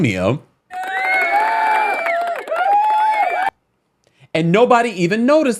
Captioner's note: cheering sound bite plays